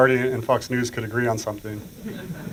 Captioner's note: laughter